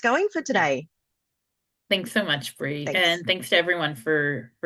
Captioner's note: American accent